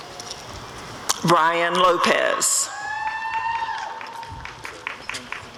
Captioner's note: applause and cheering